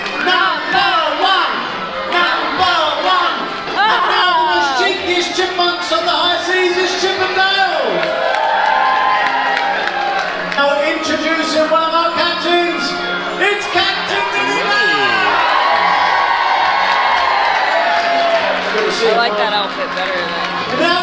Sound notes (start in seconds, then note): 0.3 crowd; 8.1 crowd applauding; 15.6 crowd cheering